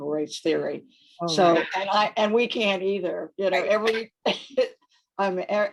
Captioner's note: chuckles